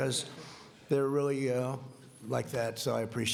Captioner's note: laughing